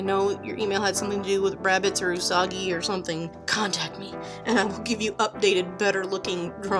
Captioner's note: silly secret voice